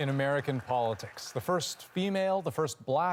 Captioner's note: applause